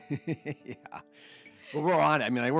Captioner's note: laughs